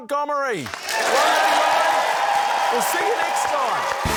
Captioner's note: cheering, applause